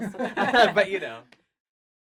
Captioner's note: laughs